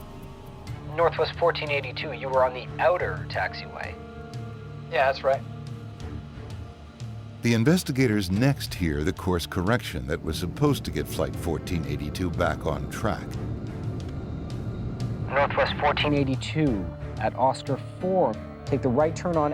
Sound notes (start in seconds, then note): 6.3 sinister music; 14.4 humming